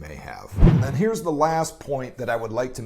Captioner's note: whoosh